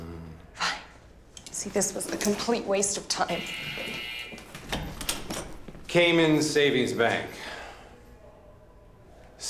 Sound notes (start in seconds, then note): 3.2 door buzzing